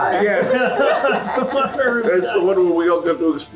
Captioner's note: laughs